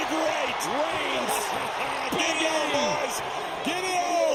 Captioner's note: JBL laughs